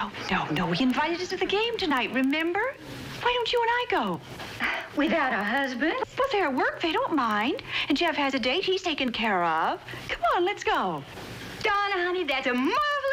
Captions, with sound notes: And Jeff has a date, he's taken care of. Come on, let's go. Donna, honey, that's a marvelous idea! Good! (EXHALING)